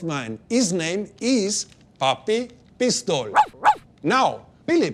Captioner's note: dog barks